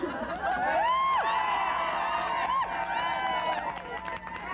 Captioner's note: laughter, cheers